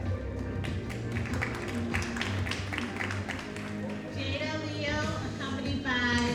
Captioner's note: audience applauding